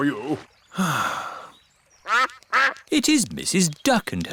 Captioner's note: sighs; quacking